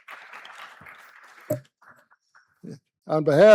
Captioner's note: applause